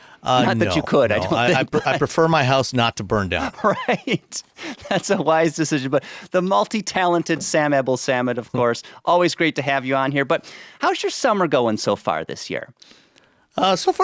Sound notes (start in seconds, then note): 0.4 chuckles; 3.3 laughs